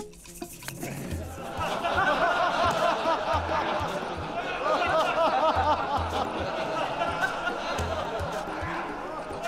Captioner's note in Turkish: Gülme sesleri